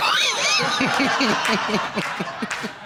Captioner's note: laughing